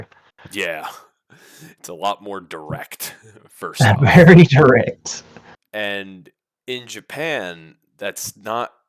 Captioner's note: laughs